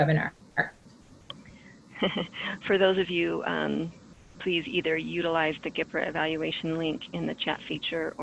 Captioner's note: laughs